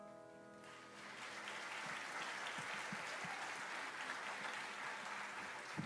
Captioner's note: audience applauds